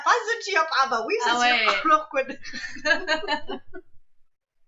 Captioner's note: laughs